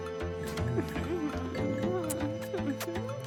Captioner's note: kissing sounds